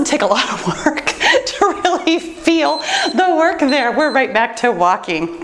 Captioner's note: timer beeps